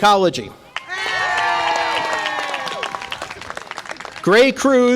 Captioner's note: audience applause and cheer